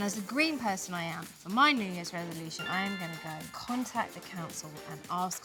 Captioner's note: notification sound